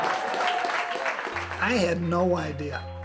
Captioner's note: cheers and applause